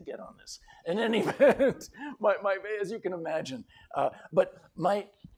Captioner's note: laughter